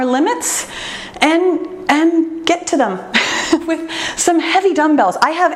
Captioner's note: laughs